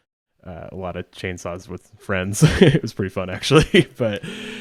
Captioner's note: laughs